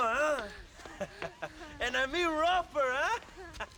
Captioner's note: laughs